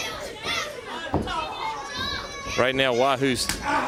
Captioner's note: crowd chatter